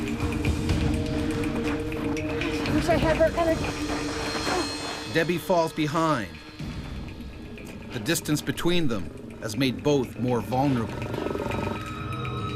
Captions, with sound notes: - Wish I had worked on it. - [Voiceover] Debi falls behind. The distance between them has made both more vulnerable.